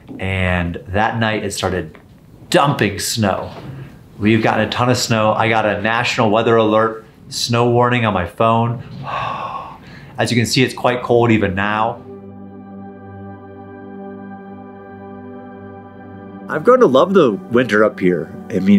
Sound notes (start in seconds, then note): 8.8 exhales heavily; 13.4 slow dramatic music